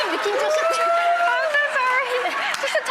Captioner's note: Marie Kondo speaking Japanese